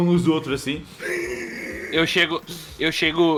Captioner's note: wheezes